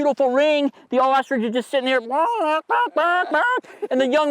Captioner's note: mouth sounds